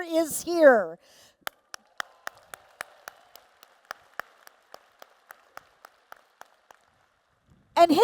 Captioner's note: applause